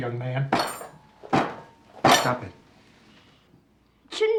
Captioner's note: banging